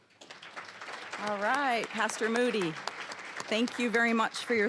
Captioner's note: applause